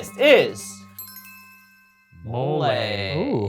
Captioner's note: list chimes